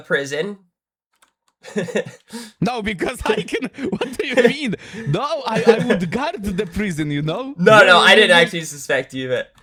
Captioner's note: laughter